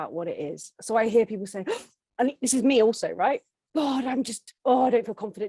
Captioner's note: gasps